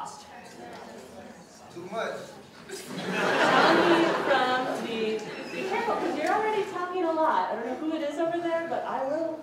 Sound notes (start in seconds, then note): 2.7 laughter